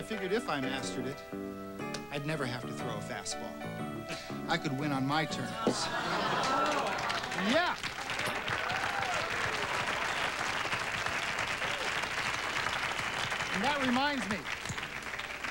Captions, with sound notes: BECAUSE I FIGURED IF I MASTERED IT I'D NEVER HAVE TO THROW A FAST BALL. I COULD WIN ON MY TERMS. YEAH! ( applause ) AND THAT REMINDS ME.